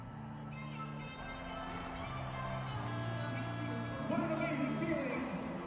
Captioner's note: crowd cheering